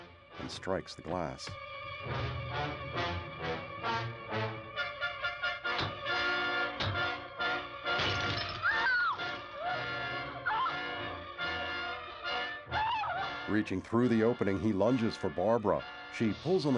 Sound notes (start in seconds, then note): 9.5 screaming